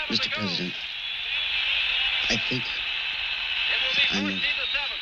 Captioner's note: TV blaring